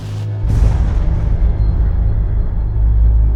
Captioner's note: suspenseful music; whooshing